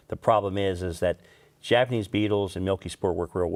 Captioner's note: none